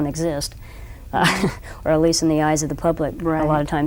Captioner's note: laughs